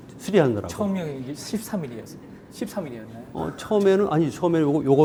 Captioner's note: speaking in Korean